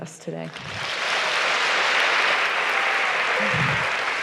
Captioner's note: applause